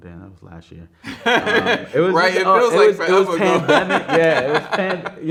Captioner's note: man laughing